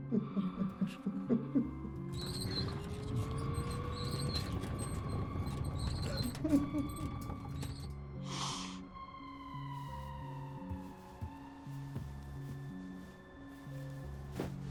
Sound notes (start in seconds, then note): 0.1 man crying; 5.9 cart squeaking